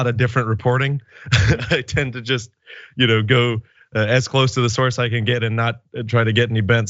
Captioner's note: laugh